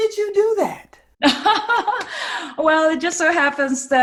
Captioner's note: laughing